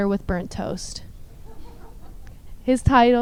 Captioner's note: audience laughs